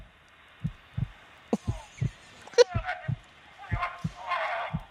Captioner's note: childish Giggles